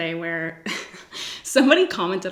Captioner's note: giggles